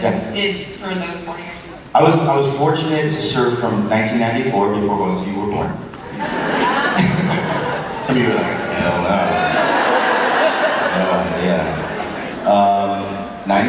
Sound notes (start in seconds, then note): 6.0 crowd laughs